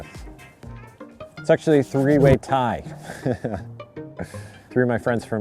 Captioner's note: laughs